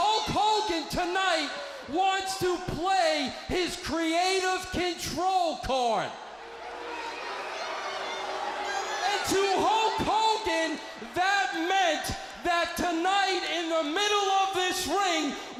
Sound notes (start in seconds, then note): 6.8 crowd cheering